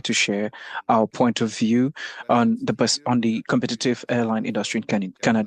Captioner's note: speaking French